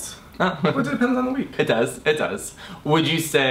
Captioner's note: laughs